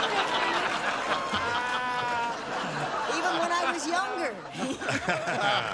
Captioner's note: laughter